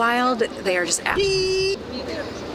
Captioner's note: beeping